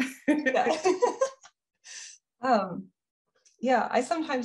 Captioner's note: both laughing